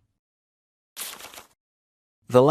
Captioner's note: rustling